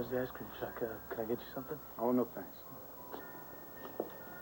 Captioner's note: chimes ring